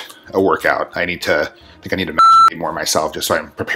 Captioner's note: beep